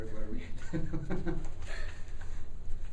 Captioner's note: laughter